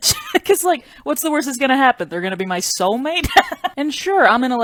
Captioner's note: laughs; laughs